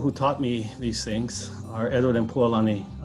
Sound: in Hawaiian language

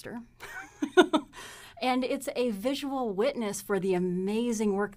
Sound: laughs

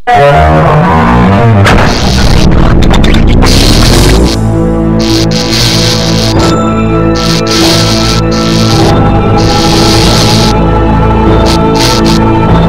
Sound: electric current

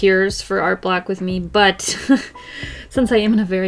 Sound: laughs

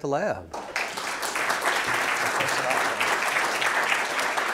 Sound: audience applauding

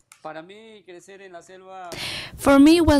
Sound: speaks in Spanish

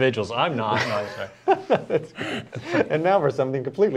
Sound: laughter

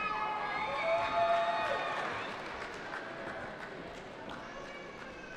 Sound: cheering

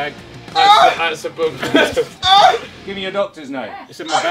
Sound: JJ whining in the background

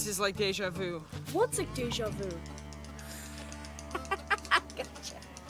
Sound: laughs

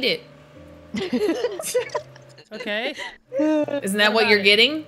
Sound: laugh

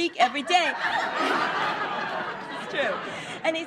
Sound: laughing

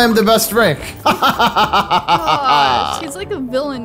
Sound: laughs

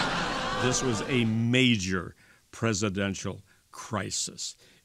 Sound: laughter

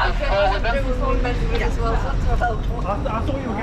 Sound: people chatting

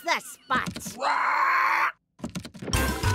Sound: squawk

